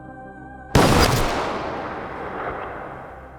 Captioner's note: gun fires